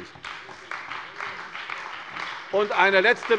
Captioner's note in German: Beifall bei der CDU und dem BÜNDNIS 90/DIE GRÜNEN